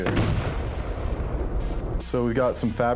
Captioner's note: box crashes